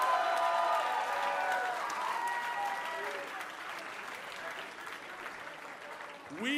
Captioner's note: cheers & applause